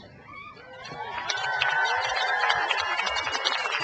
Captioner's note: crowd applauds